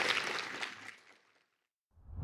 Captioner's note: applause